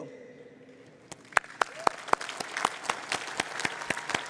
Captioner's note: applause